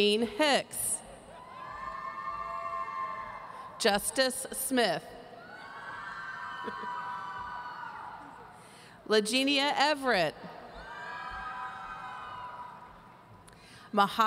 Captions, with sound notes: Gene Hicks. (audience cheering) Justice Smith. (audience cheering) Lagenia Everett. (audience cheering)